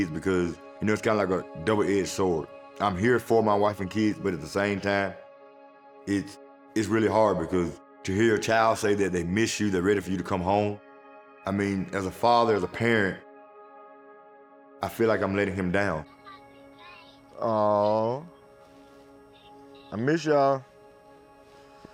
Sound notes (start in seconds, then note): 16.2 chattering